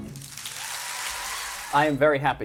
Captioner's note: cheers and applause